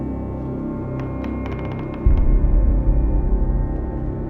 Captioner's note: creaking